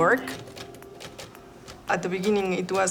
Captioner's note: typewriter clicking